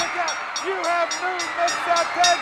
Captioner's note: audience cheering; bell ringing